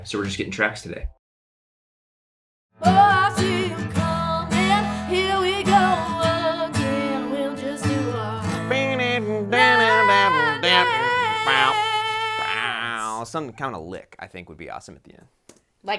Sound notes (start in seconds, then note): 8.7 mimicking a guitar